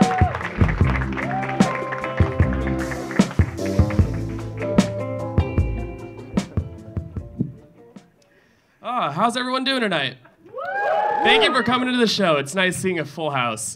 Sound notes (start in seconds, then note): 10.4 audience cheering